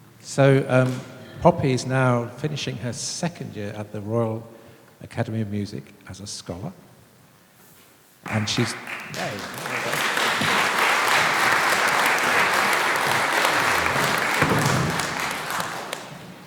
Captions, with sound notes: So Poppy's now finishing her second year at the Royal Academy of Music as a scholar and she's... [Applause]